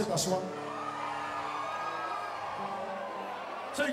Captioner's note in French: cris d'enthousiasme